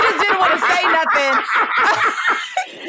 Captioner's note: laughter